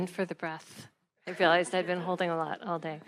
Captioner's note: attendees laughing